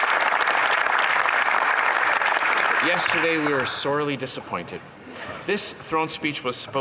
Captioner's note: some Applause